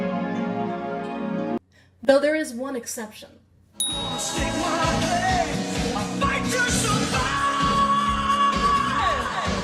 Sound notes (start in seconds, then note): 3.8 ding